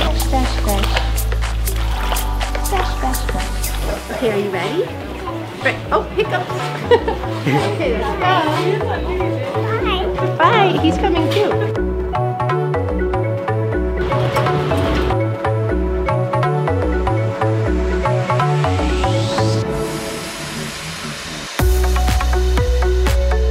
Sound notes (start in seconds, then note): 6.3 laughs; 11.8 ambient music